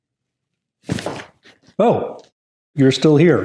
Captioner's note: shoes stumbling on floor